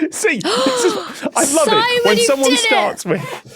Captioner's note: gasps; laughs brightly